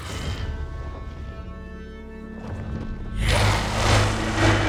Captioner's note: dragon growls